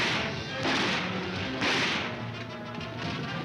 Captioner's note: guns firing